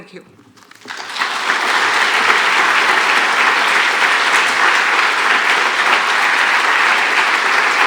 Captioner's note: applause